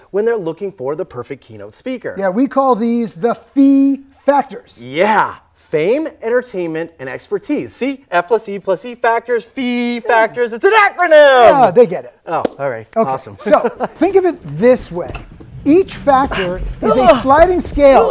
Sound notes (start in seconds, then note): 13.1 laughs